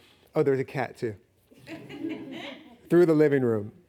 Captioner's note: laughing